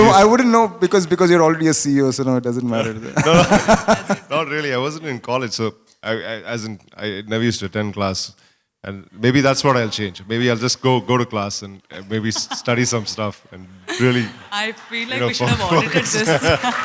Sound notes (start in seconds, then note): 2.8 laughter; 13.8 laughter